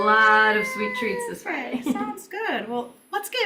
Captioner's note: chuckles